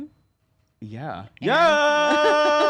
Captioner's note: elongated yelling